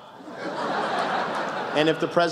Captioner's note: laughter